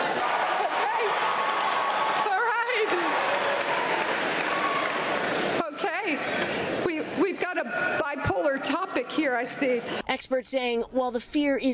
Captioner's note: audience booing